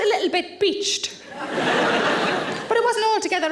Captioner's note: audience laughs